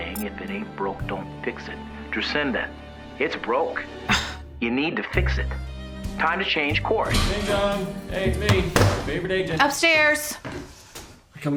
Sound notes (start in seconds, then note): 7.0 front door opens; 8.5 slams laptop shut; 10.4 footsteps approaching